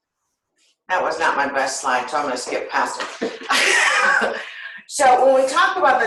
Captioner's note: silence; laughter